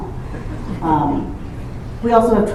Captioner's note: laughter